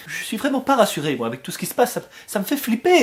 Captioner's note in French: none